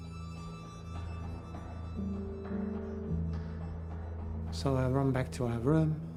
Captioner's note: hurried footsteps clacking